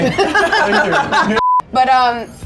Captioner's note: laughing